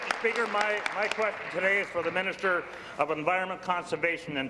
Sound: applause

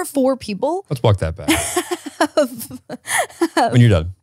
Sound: laughs

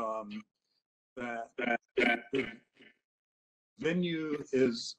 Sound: echoes

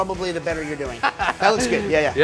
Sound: laughter

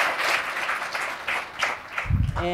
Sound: applause

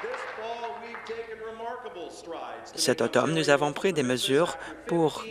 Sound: applause

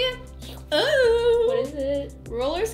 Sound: exclaims

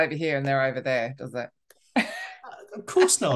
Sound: laughing

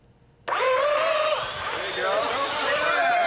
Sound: belt sanders whirring

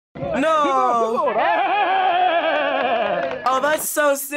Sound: people clap

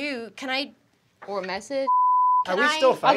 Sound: beep

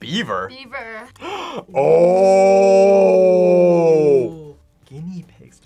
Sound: gasps

